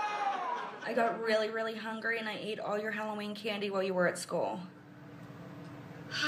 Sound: crying

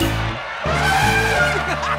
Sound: laughing; elephant horn

